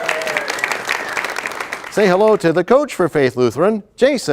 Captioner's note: applause